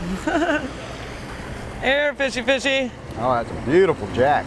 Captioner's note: laughing